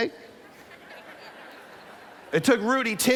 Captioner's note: laughter